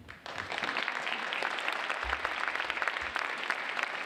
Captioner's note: audience applauding